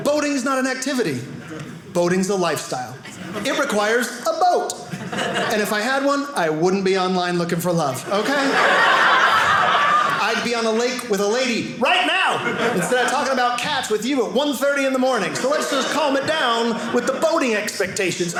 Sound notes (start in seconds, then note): 8.0 audience laughing